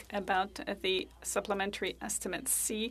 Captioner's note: speaking French